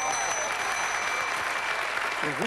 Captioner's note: applause